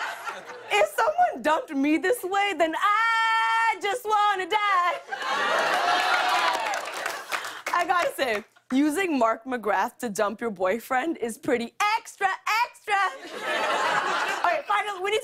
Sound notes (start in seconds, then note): 5.0 cheering; 13.1 laughter